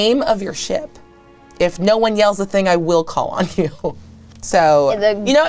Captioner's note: chuckling